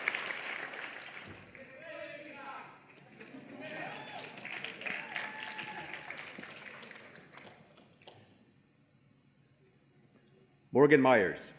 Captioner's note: applause and Cheering